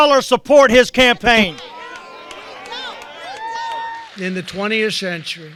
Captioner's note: background booing and yelling